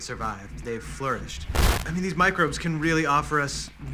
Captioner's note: static